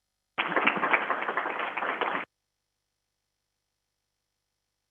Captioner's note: crowd applauding